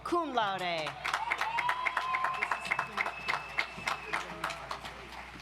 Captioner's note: audience applauds